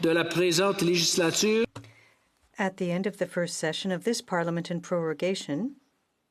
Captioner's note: speaking French